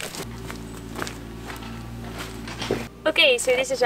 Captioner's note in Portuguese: Som da escavadora de fundo, desculpem!